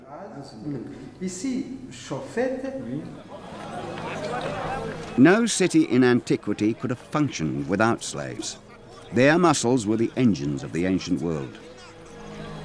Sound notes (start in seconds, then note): 0.3 scholars speaking French; 3.3 crowd chattering